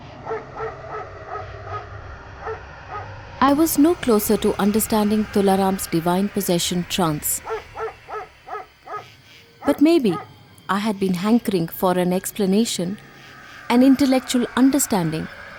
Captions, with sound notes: (dogs barking) I was no closer to understanding Tularam’s divine possession trance. (barking continues) But may be, I had been hankering for an explanation, an intellectual understanding,